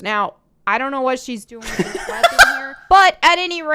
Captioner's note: laughs